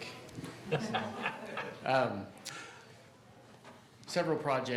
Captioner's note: man laughing